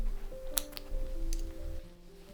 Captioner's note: snip